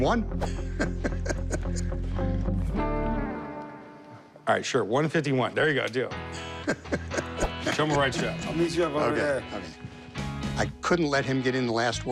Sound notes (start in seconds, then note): 2.2 laughs; 7.9 laughs